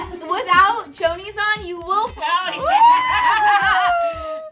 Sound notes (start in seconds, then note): 0.0 girls laugh; 2.4 girls cheer